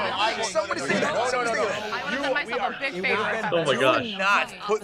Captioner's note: everyone bickering